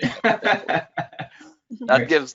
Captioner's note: laughs